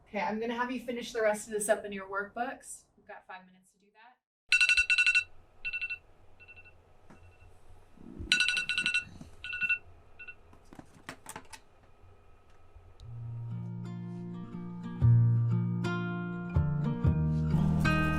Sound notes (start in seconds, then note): 4.3 phone alarm